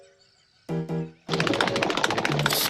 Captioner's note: tapping